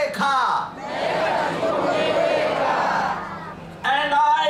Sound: audience repeats in local language

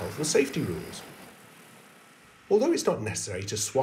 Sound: drone whirring

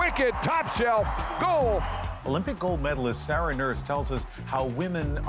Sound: cheers and Applause

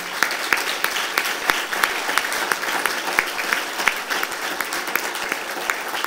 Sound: applause

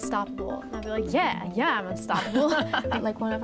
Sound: laughs

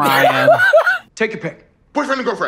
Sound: laughs

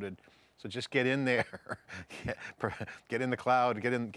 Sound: laughs

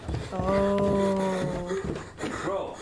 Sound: heavy breathing

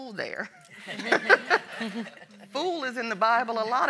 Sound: all laughing

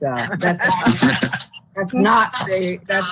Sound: laughing

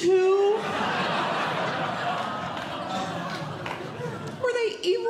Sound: audience Laughing

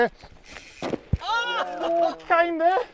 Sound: oohing

